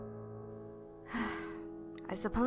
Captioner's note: sighs